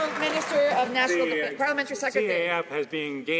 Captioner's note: some Applause